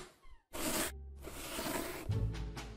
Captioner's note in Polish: dźwięk przesuwanej książki; dźwięk wysuwanej książki